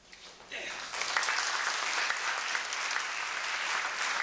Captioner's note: applause